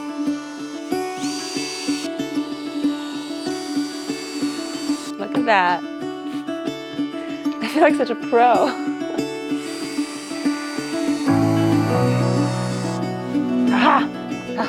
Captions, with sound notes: (gentle music) (drill whirring) Look at that, I feel like such a pro. (laughs) (gentle music) (drill whirring) Ah ha!